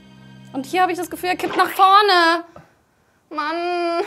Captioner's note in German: Pflatsch